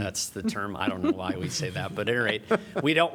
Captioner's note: laughter